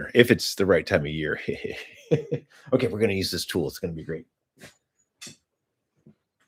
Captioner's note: laughter